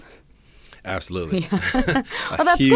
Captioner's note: laughter